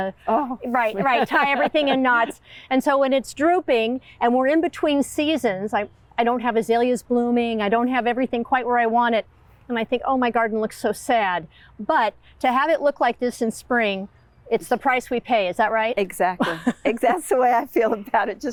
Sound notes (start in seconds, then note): 0.3 laughing; 16.4 chuckling